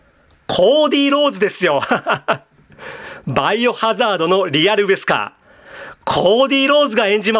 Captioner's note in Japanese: 笑い